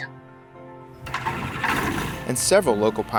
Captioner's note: plane engine whirring